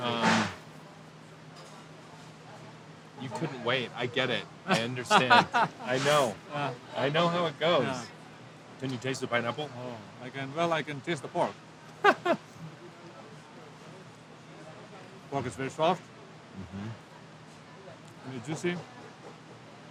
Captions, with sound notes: You couldn't wait, I get it. I understand. I know. I know how it goes! Can you taste the pineapple? - Well, I can taste the pork. (chuckles) Pork is very soft. Very juicy.